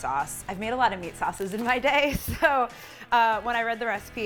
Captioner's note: laughs